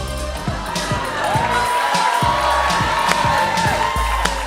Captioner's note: cheers and applause